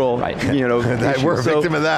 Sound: laughs

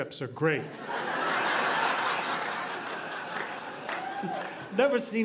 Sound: audience laughing

